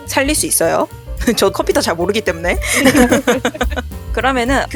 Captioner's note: laugh